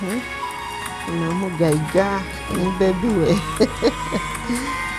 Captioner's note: speaking in Lusoga